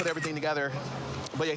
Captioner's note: camera app clicks